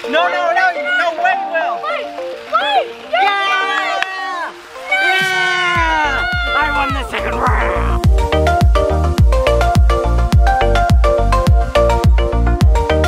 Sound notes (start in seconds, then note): 7.4 roars; 10.3 bright music